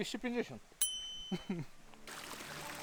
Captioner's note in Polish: Dźwięk dzwonka